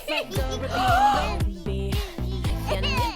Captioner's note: gasps